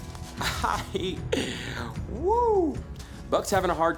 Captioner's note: laughing